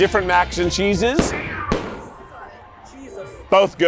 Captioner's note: fireworks exploding